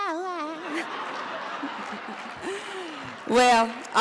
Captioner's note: audience laughs